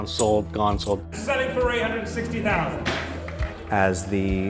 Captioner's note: bangs gavel